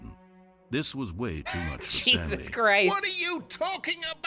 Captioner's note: sad music; laughing